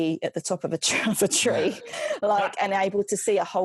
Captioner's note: laughs